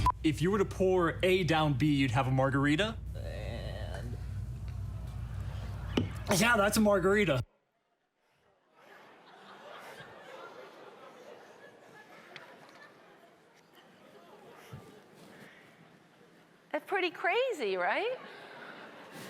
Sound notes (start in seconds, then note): 8.6 audience laughing